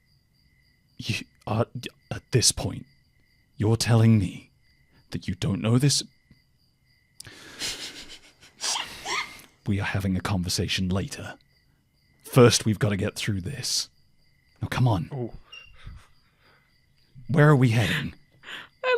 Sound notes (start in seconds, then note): 1.6 stammers; 7.6 giggles